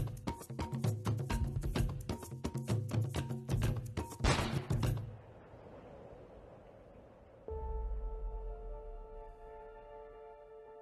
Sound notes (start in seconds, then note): 4.2 gun firing; 7.5 gentle music